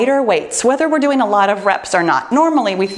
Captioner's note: timer beeps